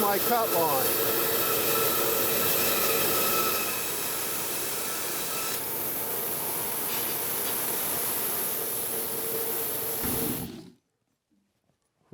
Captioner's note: bandsaw buzzing